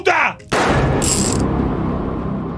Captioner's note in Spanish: Disparo